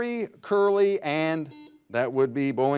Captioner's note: buzzer buzzes